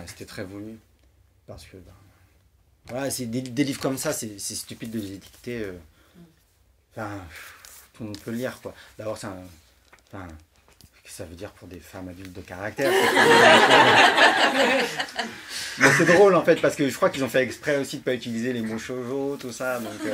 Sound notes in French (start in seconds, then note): 12.8 rires